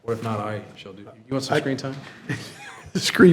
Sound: trustees chuckling

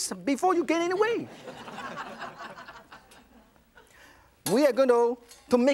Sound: audience laughs

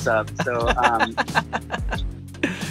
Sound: laughs

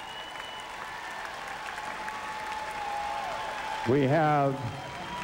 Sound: cheers, whistles, & applause

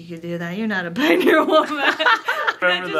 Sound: laughs

